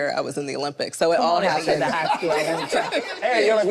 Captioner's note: group laughs